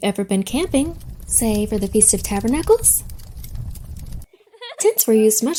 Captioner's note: fire crackles